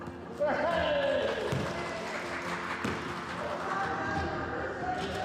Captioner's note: crowd cheering